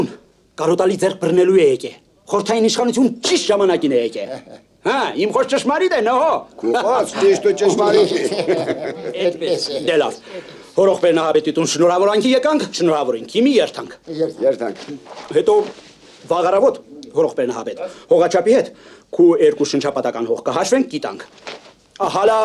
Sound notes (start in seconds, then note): 5.6 haha; 9.3 haha